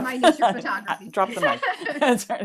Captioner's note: laughing